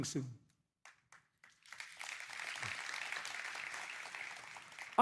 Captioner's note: applause